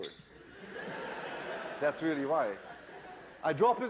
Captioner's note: laughter